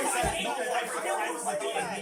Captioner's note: assorted arguing